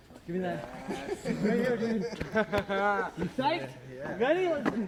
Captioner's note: playful laughter